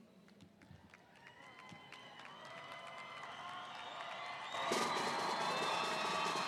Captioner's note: audience cheering; audience applauding